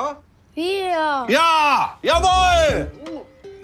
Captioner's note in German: laut